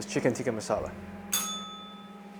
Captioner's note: bell rings